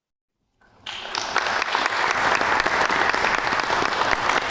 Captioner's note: audience applauds